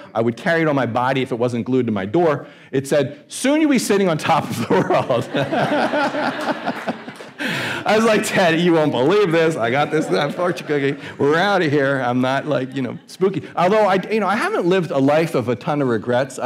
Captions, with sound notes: I would carry it on my body if it wasn't glued to my door. It said, soon you'll be sitting on top of the world. (audience laughing) I was like, Ted, you won't believe this. I got this fortune cookie, we're out of here. I'm not like, you know, spooky. Although I, you know, I haven't lived a life of a ton of regrets.